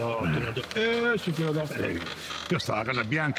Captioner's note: Donkey's bray